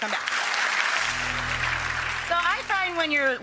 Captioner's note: audience claps